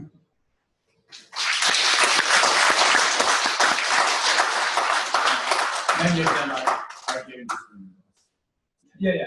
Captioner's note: clapping; pause